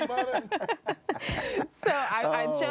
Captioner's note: both laughing